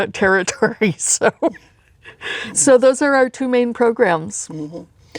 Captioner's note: laughs